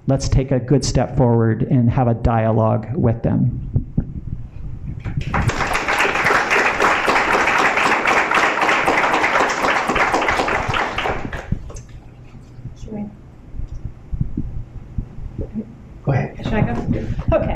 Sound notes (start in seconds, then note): 5.1 applause